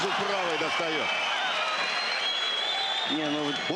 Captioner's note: cheers